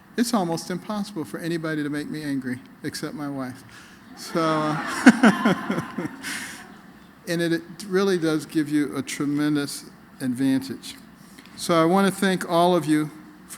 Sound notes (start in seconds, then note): 4.1 laughter